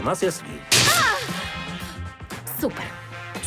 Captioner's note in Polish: Natalia krzyczy